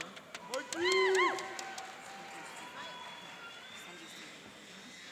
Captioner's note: cheering and applauding